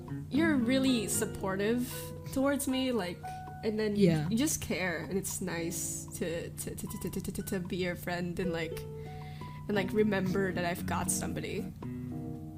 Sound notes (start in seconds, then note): 6.6 stutters